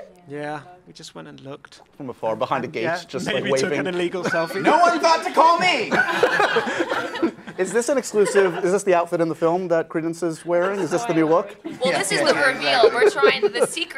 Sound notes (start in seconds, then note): 6.4 laughing